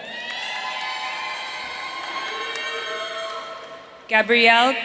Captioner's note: audience cheering